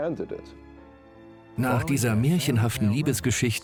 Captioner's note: voiceover